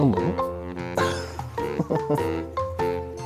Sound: laughs

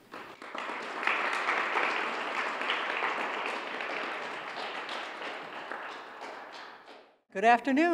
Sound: applause

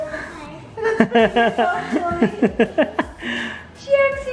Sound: laughs

